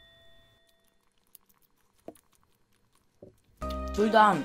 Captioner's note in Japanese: 4倍速 咀嚼▶▶